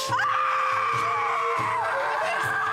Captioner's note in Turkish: Bağırıyor